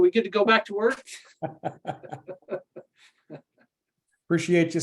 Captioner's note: laughter